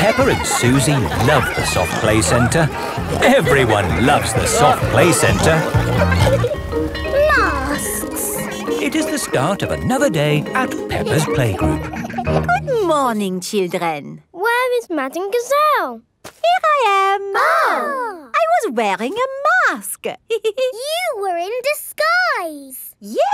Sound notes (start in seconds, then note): 6.4 bell ringing; 17.2 exclaiming; 20.4 giggles